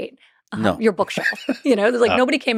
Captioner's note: laughs